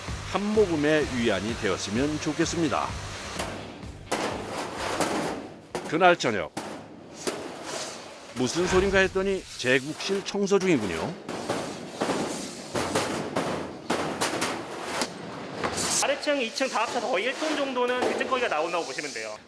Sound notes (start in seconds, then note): 3.2 thump, thump; 4.1 creak; 5.8 thump, thump